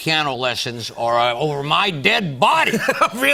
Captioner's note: laughs